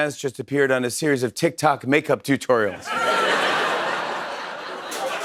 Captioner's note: laughter; applause